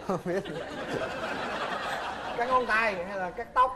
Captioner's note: laughing